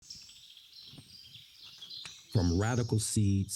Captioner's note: birds chirping